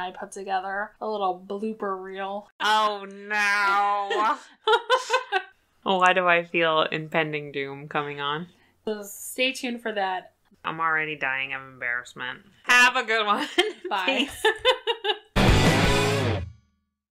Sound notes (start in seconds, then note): 3.5 laughs; 13.4 laughs; 15.3 outro music plays